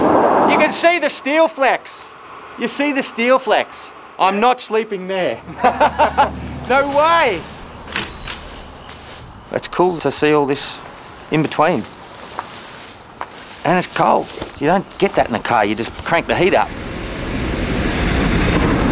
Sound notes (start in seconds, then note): 0.1 yelling; 5.4 laughter; 18.6 train passing overhead